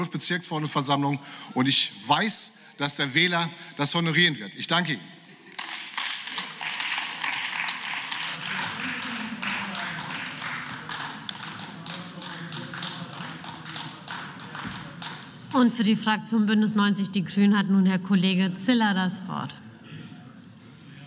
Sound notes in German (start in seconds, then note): 5.6 Beifall